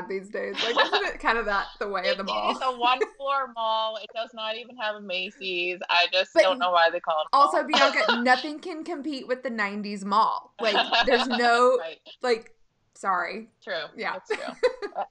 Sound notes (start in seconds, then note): 7.5 laughing; 10.6 laughing